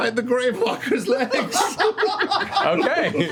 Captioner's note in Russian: смех